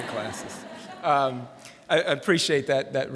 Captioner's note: laughter